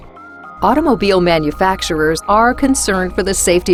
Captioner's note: voiceover